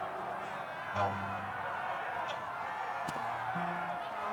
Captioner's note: crowd cheering